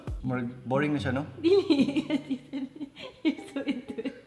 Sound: giggles

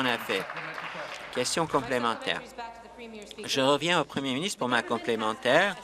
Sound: some applause

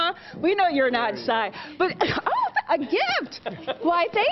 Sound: laughter

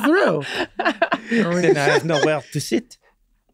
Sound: group laughs; French accent

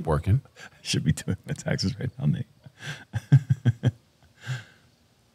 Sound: chuckles

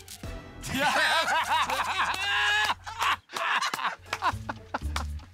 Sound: laughter

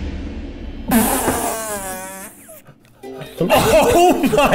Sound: revealing music; blows raspberry

